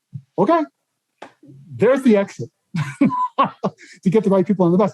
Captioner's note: laughs